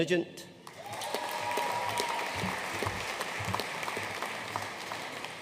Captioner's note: audience cheering and applauding